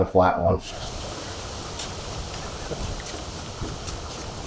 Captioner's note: trees rustling